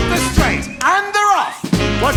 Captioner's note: swanee Whistle rising